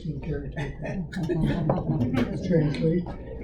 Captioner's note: audience laughter